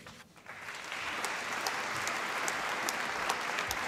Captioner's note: applause